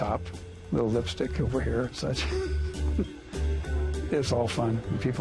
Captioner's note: laughs